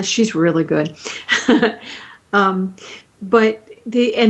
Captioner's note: chuckling